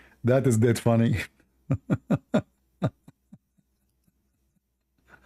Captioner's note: Ketawa